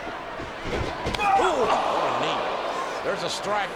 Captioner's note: Punk grunts